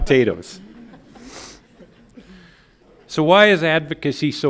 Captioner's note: audience laughs